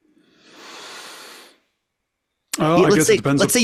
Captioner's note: deeply inhales